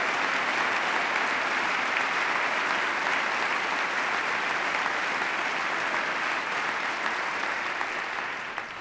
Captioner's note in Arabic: تصفيق